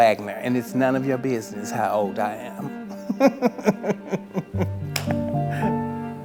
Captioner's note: chuckles